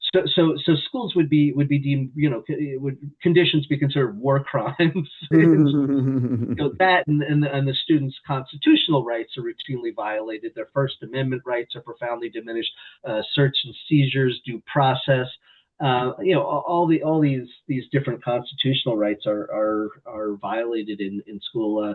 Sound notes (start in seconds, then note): 4.8 laughs